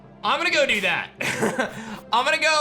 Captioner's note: chuckles